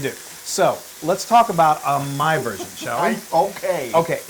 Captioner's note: laugh